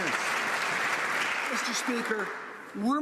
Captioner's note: some Applause